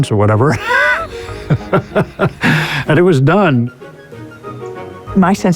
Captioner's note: laughs